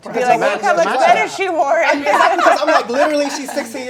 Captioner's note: laughs